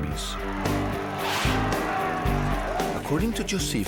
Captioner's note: crowd screaming